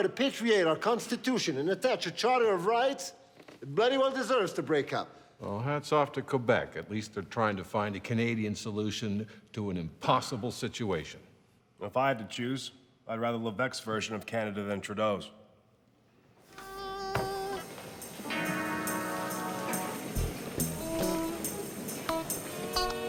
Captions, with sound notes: to patriate our constitution and attach a charter of rights, it bloody well deserves to break up! - Well, hats off to Quebec. At least they're trying to find a Canadian solution to an impossible situation. - If I had to choose, I'd rather Levesque's version of Canada than Trudeau's. (upbeat music) (people chatter indistinctly)